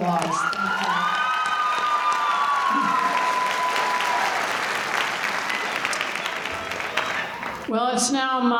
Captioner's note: applause